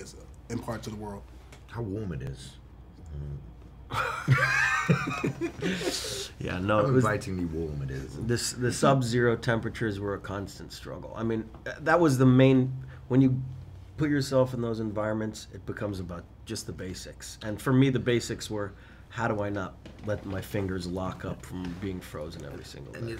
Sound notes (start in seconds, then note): 3.9 laughing